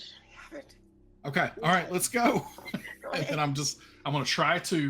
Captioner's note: laughs